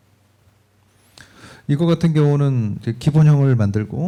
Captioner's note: speaking korean